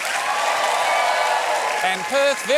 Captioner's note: cheering, applause